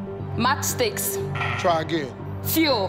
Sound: tone buzzing

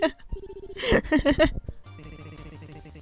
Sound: laughs

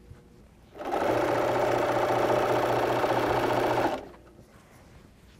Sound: machine sewing

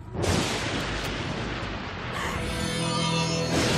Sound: thunder crashing; gasping

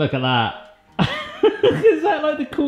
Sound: laughing

